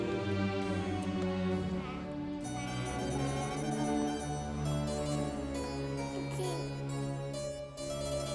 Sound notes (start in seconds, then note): 2.6 child babbling; 5.4 soft music